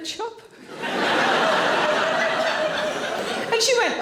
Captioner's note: audience laughing